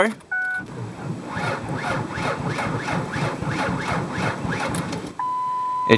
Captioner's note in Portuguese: Motor a dar a partida